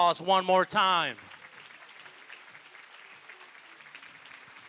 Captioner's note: applause